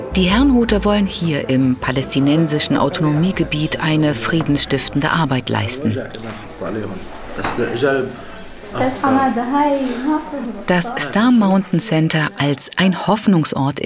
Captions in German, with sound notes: Die Herrnhuter wollen hier, im palästinensischen Autonomiegebiet, eine friedensstiftende Arbeit leisten. (Gespräch auf Arabisch) Das Star Mountain Center als ein Hoffnungsort